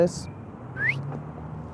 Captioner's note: whistle